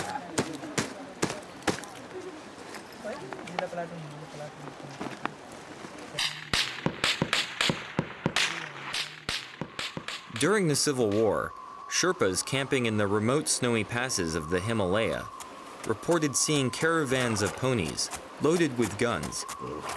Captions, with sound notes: (guns fire) During the civil war, sherpas camping in the remote snowy passes of the Himalaya reported seeing caravans of ponies loaded with guns